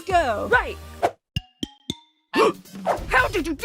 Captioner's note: all gasp